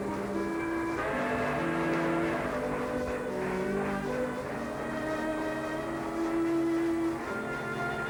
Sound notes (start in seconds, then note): 0.9 train whistle